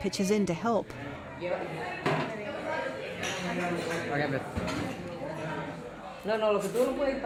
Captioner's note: speaking spanish